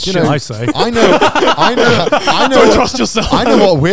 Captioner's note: laughs